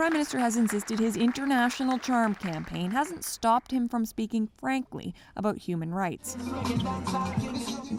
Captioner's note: applause